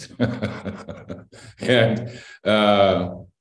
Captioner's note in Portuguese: Risos